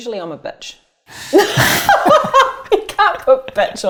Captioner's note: both laughing; laughs